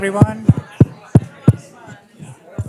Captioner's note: tapping noises